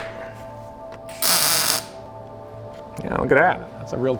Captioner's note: welder crackling loudly